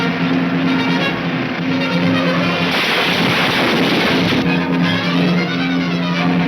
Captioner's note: crashing; exciting orchestra music